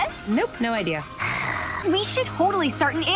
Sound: sighs

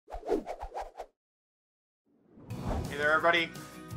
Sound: whip whizzing

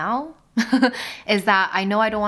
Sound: laughing

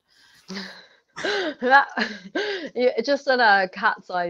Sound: laughter

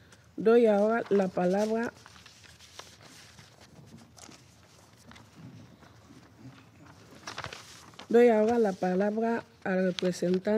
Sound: in Spanish

